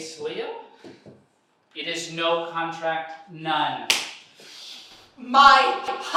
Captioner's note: slaps